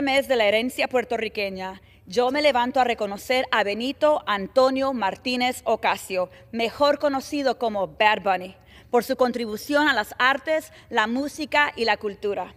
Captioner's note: speaking spanish